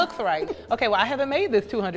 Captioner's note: laughs